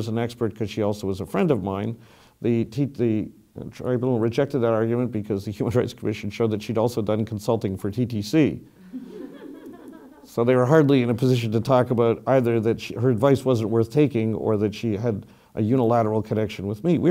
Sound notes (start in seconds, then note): 8.8 laugh